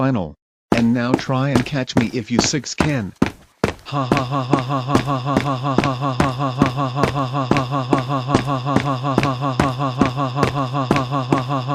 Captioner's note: laughing